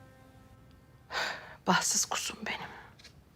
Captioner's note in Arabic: يتنهد